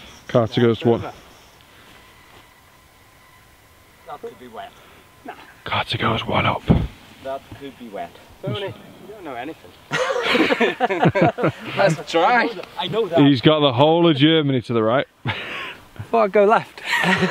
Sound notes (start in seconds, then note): 9.8 laughs